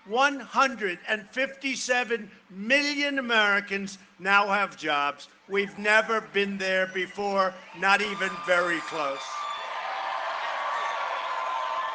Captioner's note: cheering and applause